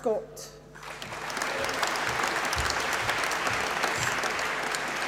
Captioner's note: applause